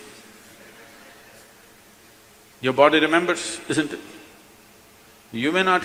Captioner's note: laughter